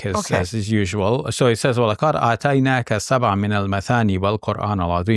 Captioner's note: recites in Arabic